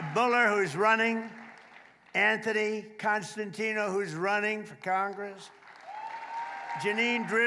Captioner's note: applause